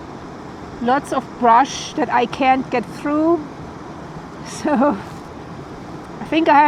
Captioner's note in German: lacht